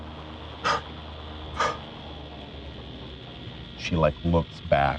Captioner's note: consecutive exhales